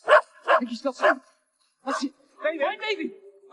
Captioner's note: dog barking